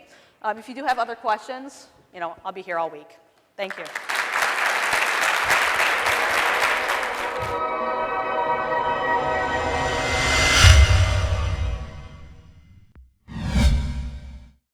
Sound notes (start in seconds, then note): 3.6 applause; 5.4 upbeat music